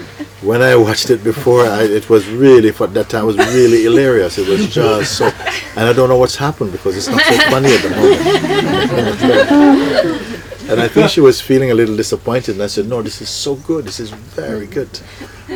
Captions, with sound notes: When I watched it before, it was really fun... that time, it was really hilarious, it was just so... and I don't know what has happened because it's not so funny at the moment.' [More laughter] And I think she was feeling a little disappointed and I said, No, this is so good, this is very good.